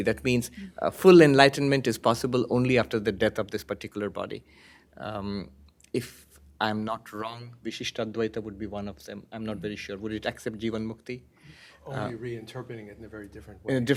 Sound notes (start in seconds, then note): 7.1 hindi